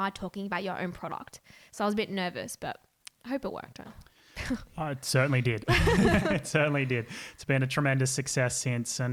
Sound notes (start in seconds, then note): 5.2 laughing